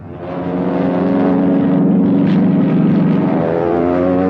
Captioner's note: engines roaring